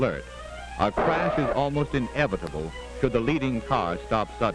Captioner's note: tires screeching